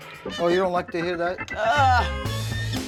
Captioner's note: creaking sound; creak